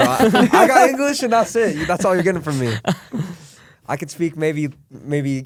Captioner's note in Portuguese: risos